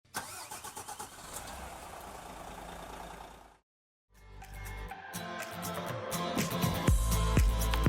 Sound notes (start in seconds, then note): 0.2 engine revs; 4.2 upbeat music